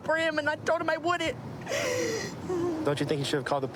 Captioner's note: sobbing